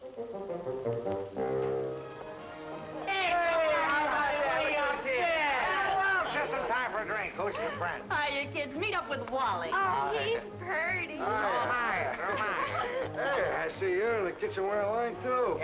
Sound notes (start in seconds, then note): 2.0 cheerful music playing; 2.8 people greeting